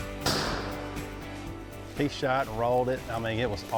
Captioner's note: shotgun fires